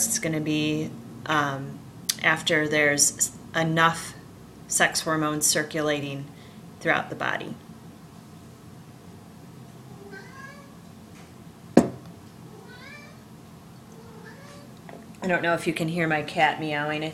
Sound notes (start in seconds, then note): 9.9 cat meowing